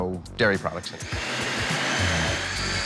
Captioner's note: whirring